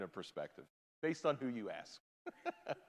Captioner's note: laughs